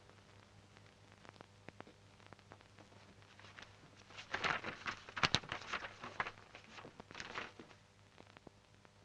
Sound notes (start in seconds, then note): 2.8 paper rustling